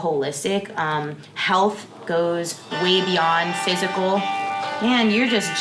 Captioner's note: phone ringing